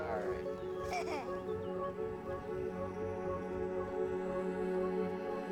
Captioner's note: laughs